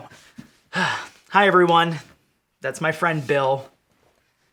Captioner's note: sighing